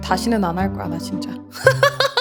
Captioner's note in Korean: 웃음